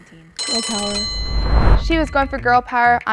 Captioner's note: bell rings